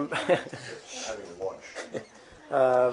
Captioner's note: laughter